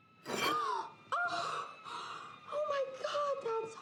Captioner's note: gasps